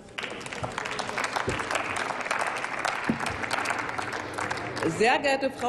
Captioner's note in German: Applaus